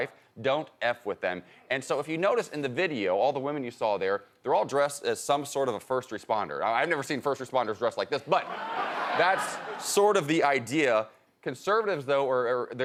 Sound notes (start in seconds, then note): 8.6 audience applauding